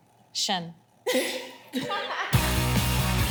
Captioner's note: laughs; rock music